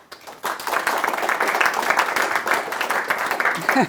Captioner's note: clapping